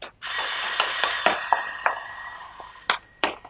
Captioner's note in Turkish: Kapı zili